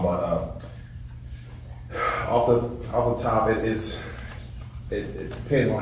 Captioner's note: sighs